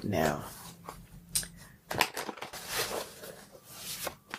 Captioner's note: cards clattering